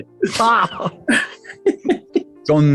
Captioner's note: laughing